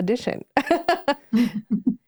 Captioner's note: laugh